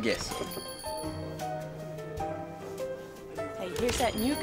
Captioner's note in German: Glocke klingelt